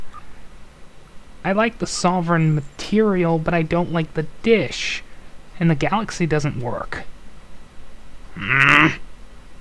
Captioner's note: annoyed groan